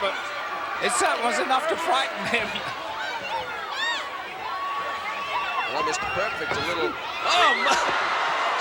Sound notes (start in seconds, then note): 3.0 audience chattering